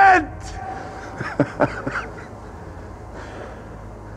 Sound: laughs

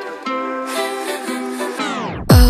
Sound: ha-ha-ha-ha

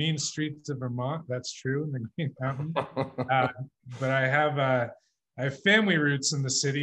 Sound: laughs

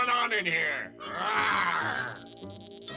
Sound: roaring

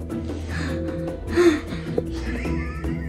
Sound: gasping; laughing

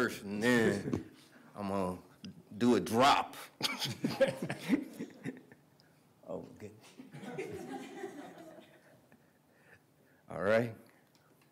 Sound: laughter

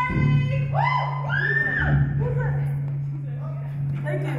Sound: audience chatter; audience cheer

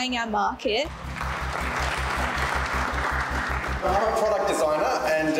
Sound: people applauding

